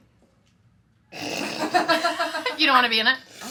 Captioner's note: snickers; laughing; person laughing